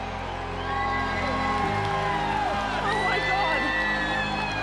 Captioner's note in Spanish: aplausos